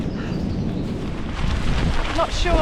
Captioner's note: wind